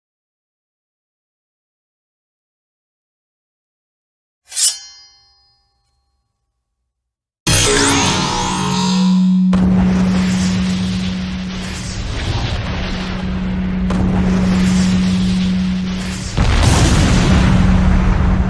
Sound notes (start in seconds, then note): 4.5 sword clanging; 7.6 laser blasting; 9.8 explosions booming